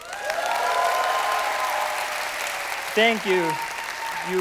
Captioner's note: cheers and applause